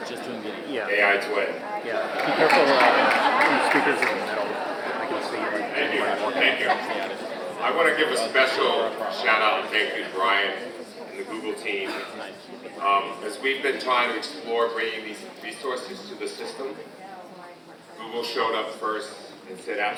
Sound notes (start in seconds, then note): 3.4 audience applauds; 5.7 audience indistinct chatter continues